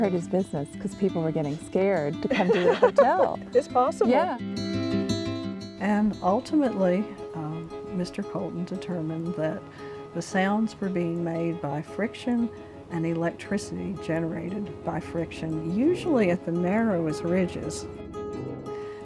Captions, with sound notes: - And that was gonna hurt his business. 'Cause people were getting scared to come to the hotel. [laughing] - It's possible. - Yeah. - And ultimately, Mr. Colton determined that the sounds were being made by friction and the electricity generated by friction, usually at the narrowest ridges.